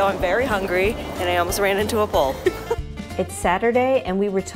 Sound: laughs

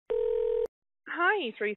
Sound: phone dial tone

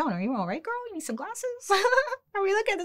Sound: chuckles

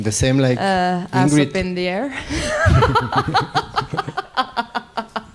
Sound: laughs

